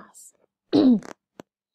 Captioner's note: clears throat